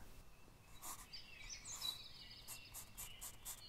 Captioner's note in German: Zeichengeräusche und Vogelgesang